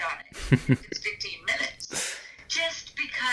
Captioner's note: laughs